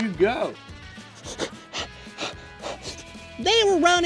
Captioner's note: breathing heavily